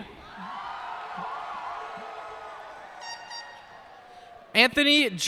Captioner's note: cheers and applause